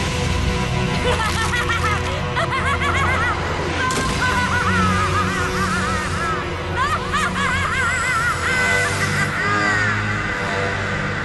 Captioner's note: maniacal laughter